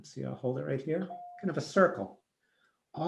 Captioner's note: bell dings